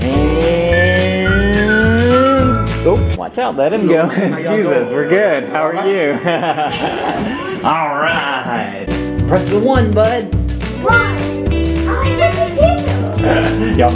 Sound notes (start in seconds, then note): 5.5 laughs